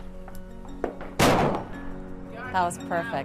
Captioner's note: gunfire